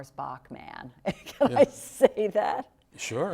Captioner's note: laughing